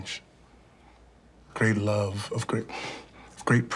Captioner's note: sighs